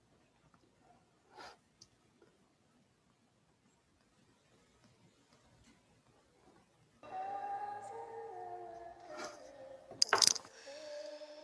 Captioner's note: ethereal Sound Plays